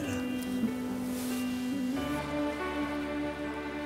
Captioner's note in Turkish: Gülüyor